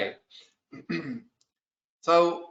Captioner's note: clears throat